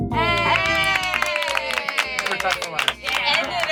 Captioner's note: light, bubbly music; group cheers and claps